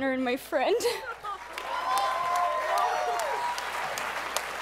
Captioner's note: applause